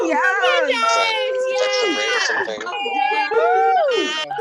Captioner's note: audience cheers, chatter